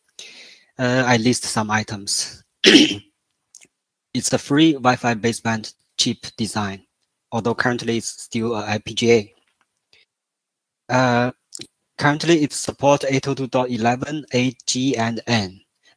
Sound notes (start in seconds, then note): 2.6 咳嗽again